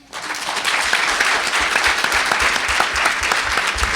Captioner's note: audience clapping